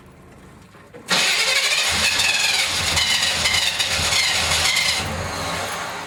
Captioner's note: engine trying to start